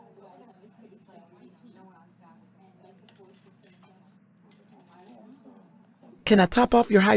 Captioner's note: subdued diner background sounds